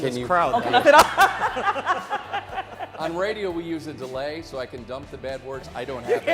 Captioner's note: laughter